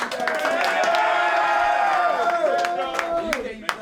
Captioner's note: clapping; cheering